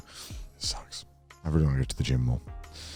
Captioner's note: whispers